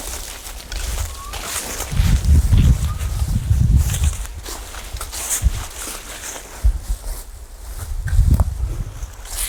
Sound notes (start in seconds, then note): 1.5 man whistling; 5.6 leaves crunching